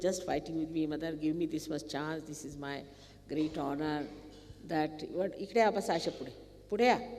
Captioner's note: speaking Marathi and Hindi to someone